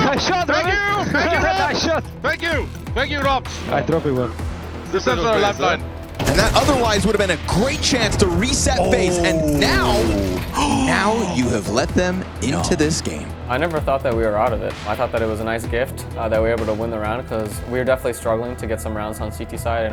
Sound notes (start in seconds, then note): 0.0 player chuckling; 0.9 chuckling